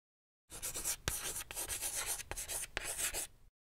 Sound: chalk writing

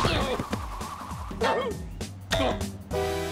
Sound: whimpers

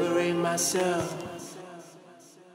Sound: echoing

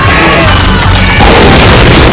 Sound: kremling_die_3.wav

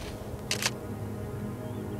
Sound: camera clicks

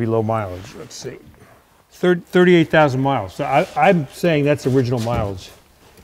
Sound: none

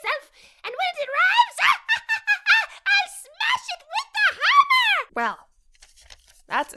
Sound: laughs

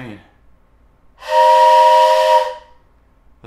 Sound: train horn noise

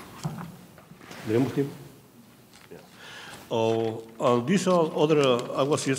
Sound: speaking in a foreign language

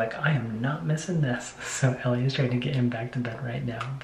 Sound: none

